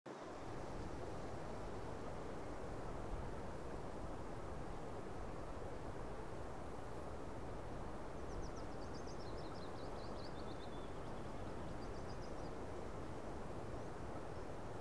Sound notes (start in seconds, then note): 0.0 light wind; 8.4 birds chirp in the distance